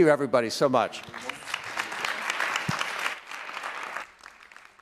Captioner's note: applause